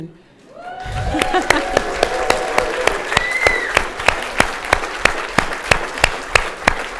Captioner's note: audience cheers and applause; laughs